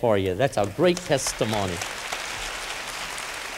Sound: applause

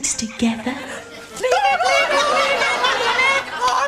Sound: Ant & Dec screams random slobber robber gibberish

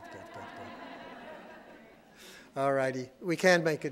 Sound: audience laughing

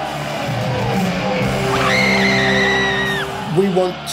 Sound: loud scream

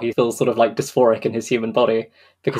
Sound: whispers

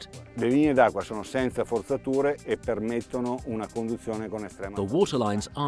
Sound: speaking foreign language

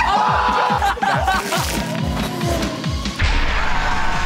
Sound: screaming and laughing; electronic music

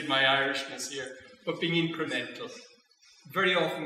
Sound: speaking Irish; speaking Irish

